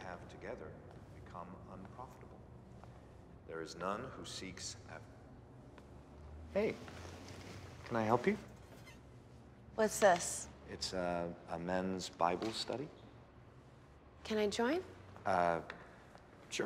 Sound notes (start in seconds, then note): none